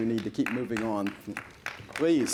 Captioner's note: applause